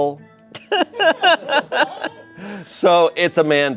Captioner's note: everyone laughs